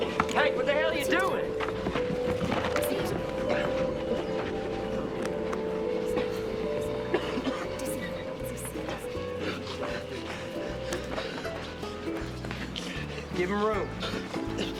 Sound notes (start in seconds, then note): 7.1 coughing; 10.1 gasping